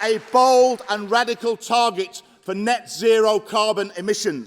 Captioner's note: applause